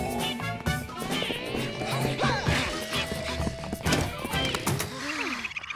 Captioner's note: kids panting; chirping